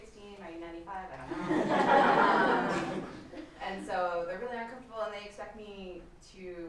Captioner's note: laughter